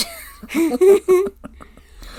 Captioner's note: laughs